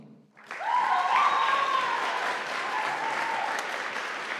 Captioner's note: audience applauding